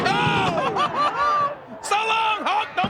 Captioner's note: laughs